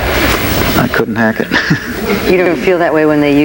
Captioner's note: laughs